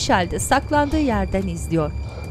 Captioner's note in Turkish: Nefes sesi